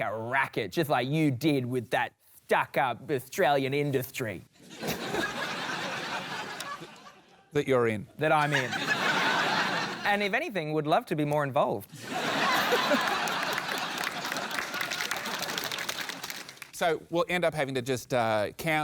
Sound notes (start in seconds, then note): 4.6 laughter; 12.0 laughter, applause